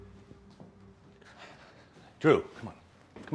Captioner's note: Drew sighs